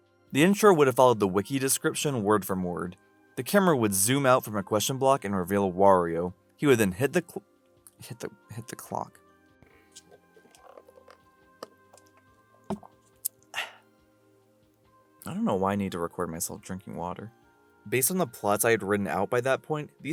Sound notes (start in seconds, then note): 9.8 water drinking noises; 13.5 exhale